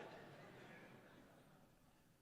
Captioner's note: laughter